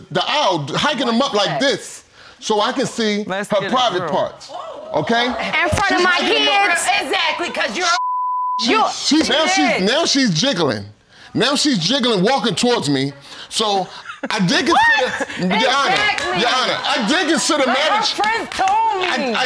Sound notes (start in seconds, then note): 4.5 audience exclaiming